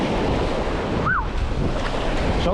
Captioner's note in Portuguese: Splash